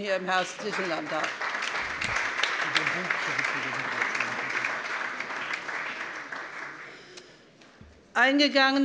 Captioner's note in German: Beifall